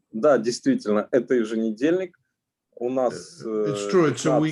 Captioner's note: speaking Russian language